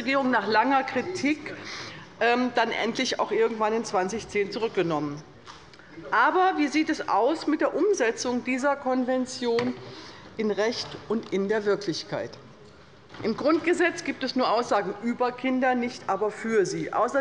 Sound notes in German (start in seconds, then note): none